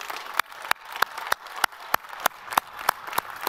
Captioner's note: all applaud